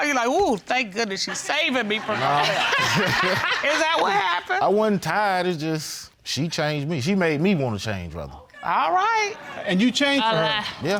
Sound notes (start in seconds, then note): 1.4 audience laughs; 1.9 laughing